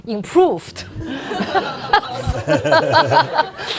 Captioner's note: laughing